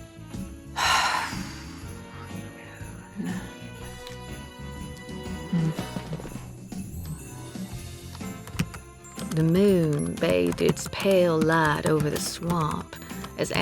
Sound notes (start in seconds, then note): 0.7 sighs; 8.1 typing resumes